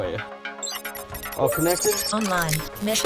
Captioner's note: beeping